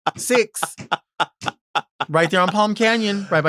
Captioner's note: Sapphira laughs